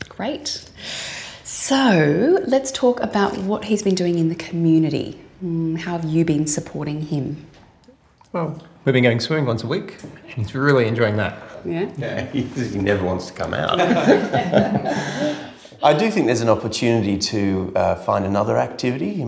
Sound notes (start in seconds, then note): 13.7 laughs; 13.7 all laugh